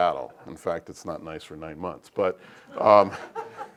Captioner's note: laugh